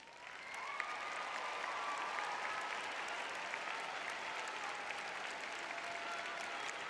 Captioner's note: cheering